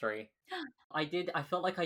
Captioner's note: gasps